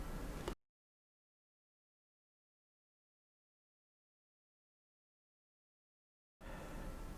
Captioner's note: silence